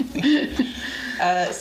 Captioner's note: laughs